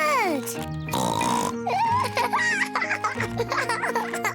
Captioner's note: oinks and giggles